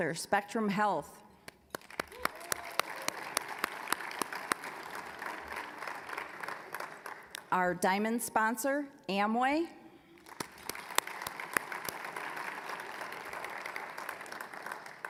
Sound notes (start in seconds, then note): 1.5 applause; 10.1 applause